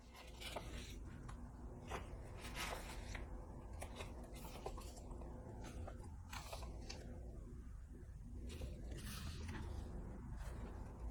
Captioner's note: flipping Pages